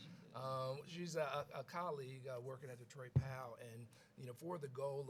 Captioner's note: laughs